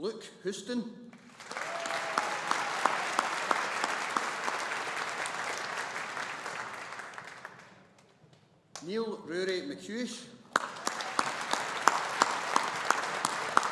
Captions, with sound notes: Luke Houston. (AUDIENCE APPLAUDING) Neil Ruairidh MacCuish. (AUDIENCE APPLAUDING)